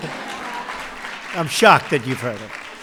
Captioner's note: laughter